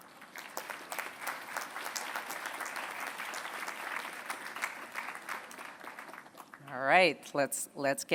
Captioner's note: applause